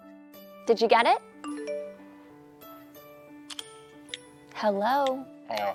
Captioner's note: phone ringing